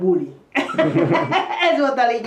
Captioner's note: chuckles